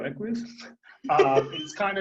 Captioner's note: laughing